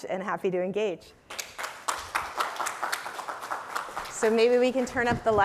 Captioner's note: applause